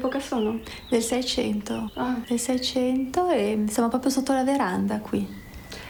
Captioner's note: speaks in foreign language